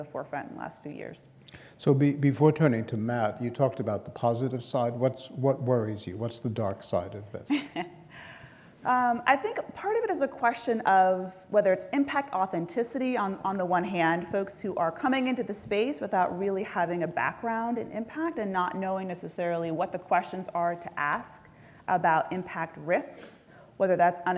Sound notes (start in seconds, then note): 7.4 laugh